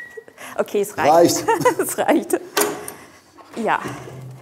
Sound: laughing

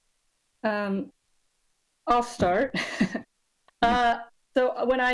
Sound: laughs

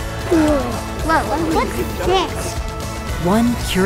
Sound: children talk

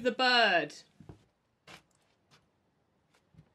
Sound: receeding footsteps

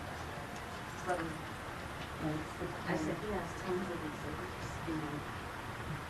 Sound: people chattering faintly

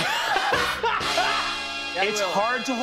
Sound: pain

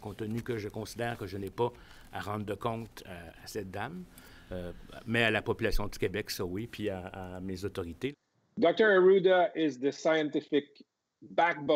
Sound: speaking French

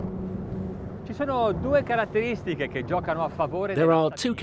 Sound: speaking in Italian

